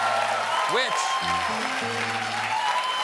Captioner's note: cheers and applause; piano riff